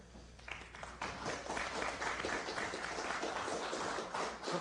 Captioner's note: applause